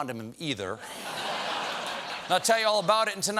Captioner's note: laughter